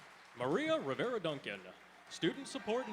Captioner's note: applause